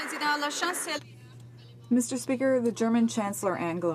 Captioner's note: some Applause